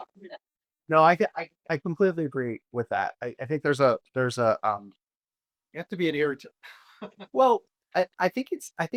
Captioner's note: chuckles